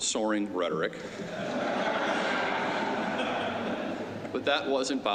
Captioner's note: laughter